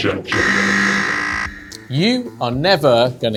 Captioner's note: buzzer sound